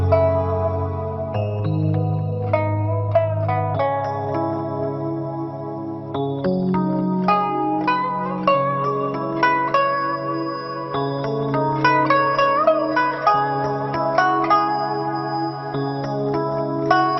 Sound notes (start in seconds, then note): none